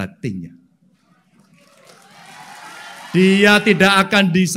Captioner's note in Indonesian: tepuk tangan